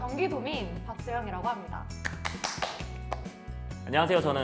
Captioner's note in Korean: 박수소리